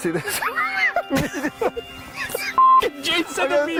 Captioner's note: risa